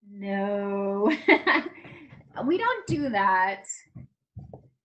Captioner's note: laughs